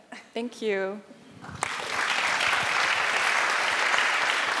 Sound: applause

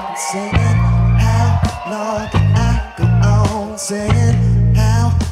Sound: audience cheers

